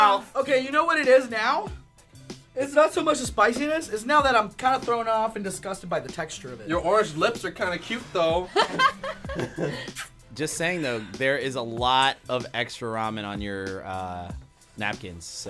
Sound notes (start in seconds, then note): 8.5 laughing; 9.8 blowing kiss